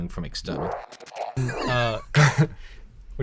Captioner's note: laughter